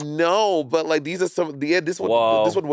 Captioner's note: mouse clicking